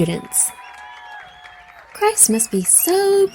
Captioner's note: crowd cheers